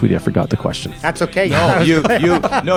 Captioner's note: laughing